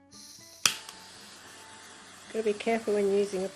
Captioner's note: noise of torch